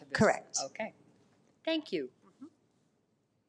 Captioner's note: none